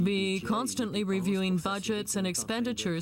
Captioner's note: speaking French